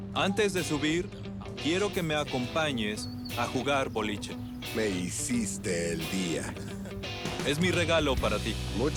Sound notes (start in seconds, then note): 6.0 laughs